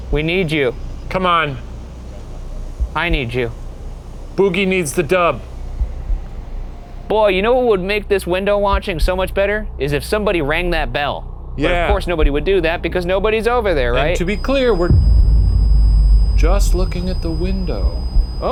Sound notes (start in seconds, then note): 13.7 REM-pod whines